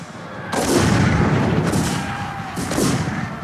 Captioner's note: guns bang